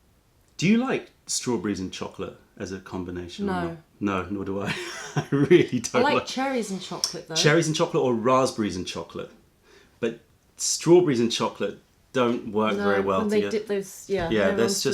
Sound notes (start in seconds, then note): 4.6 laughter